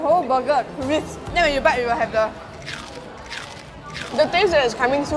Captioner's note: crunching noises